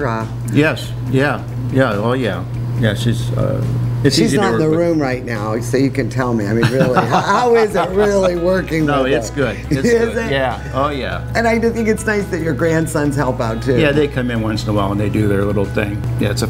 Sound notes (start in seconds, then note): 6.6 laughing